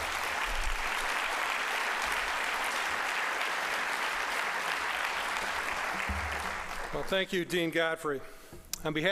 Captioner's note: applause